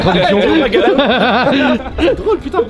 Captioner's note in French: rires